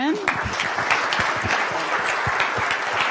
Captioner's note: applause